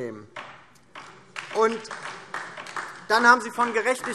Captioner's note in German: Beifall DIE LINKE